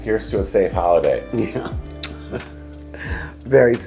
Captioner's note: chuckles